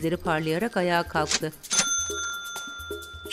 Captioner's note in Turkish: Yazar kasa zil sesi